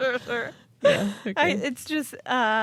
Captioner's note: laughing